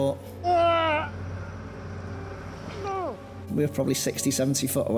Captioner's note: shouts